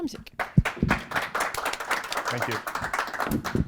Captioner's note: applause